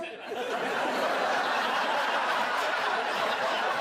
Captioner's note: audience laughs